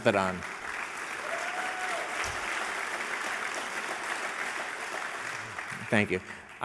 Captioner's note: applause